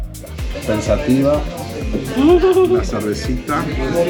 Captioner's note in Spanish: risas